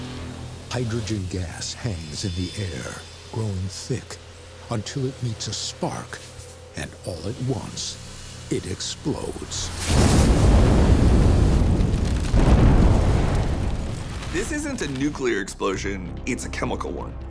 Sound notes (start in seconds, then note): 9.7 fuel rods exploding